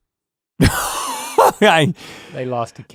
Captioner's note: Rhett laughing